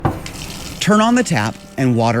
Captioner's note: water running